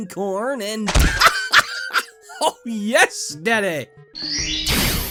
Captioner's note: hysterical laughter